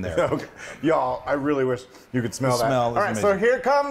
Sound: laugh

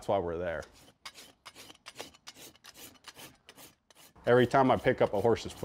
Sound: horse hoof scratching

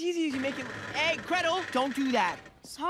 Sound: metallic creaking

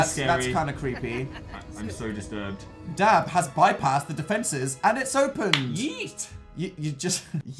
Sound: claps

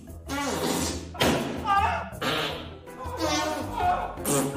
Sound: sick noises; balloon popping

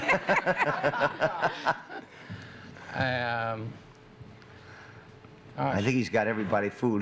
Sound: laughter

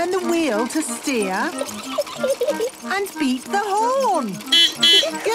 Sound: giggling; beeping

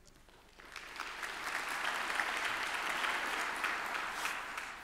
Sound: applause

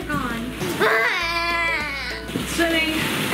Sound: cries

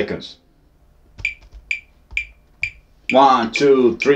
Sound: metronome beating

